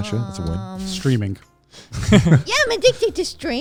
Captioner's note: laughs